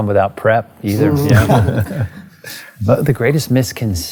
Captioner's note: laughter